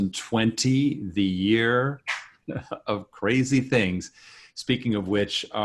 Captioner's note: laughs